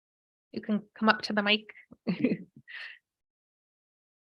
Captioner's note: laughs